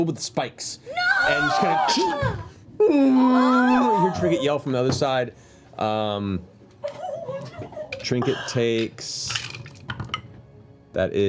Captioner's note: sad bear noises